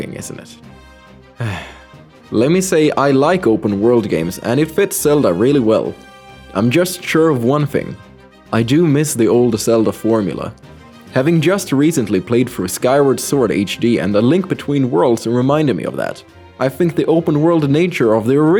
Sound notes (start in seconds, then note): 1.4 sigh